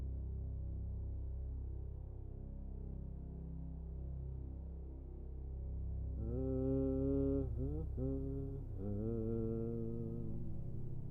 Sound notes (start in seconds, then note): 6.3 intruder humming